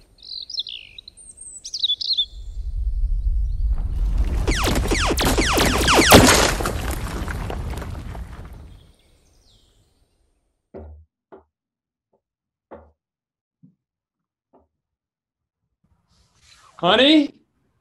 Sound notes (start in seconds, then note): 0.1 birds chirping; 4.0 lasers firing, debris